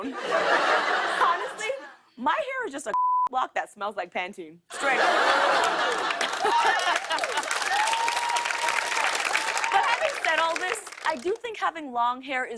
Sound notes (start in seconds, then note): 4.7 laughter; 7.0 cheers and applause